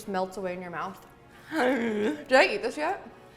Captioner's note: gasps